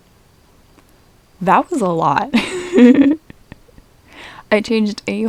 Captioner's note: laughter